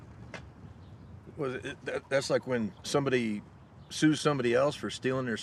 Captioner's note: stammers